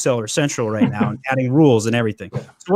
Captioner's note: chuckles